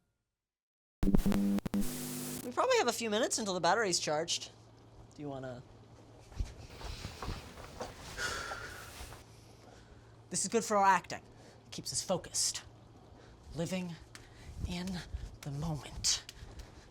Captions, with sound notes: (STATIC BUZZING) We probably have a few minutes until the battery's charged. Do you wanna? (VISH SIGHS) This is good for our acting. It keeps us focused. Living in the moment.